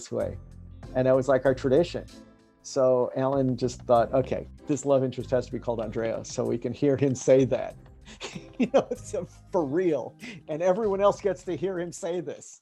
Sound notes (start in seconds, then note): 8.1 laughing